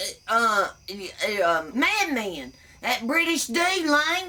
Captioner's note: burps